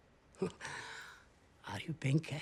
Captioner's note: laughs